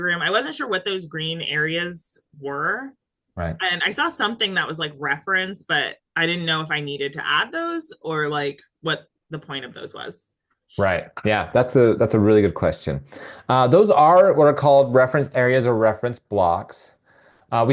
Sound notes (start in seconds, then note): none